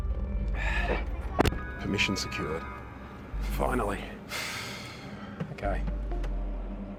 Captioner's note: sighs